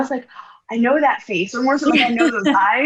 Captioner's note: laughs